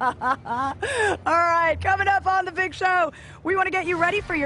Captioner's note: laughter